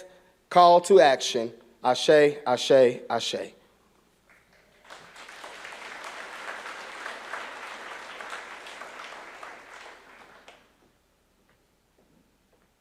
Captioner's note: applause